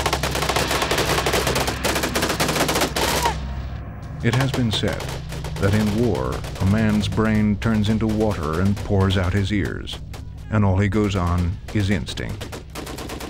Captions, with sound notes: (guns firing) - [Voiceover] It has been said that in war a man's brain turns into water and pours out his ears, and all he goes on is instinct.